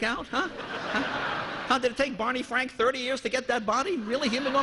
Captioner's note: laughter